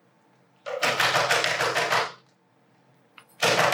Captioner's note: knocking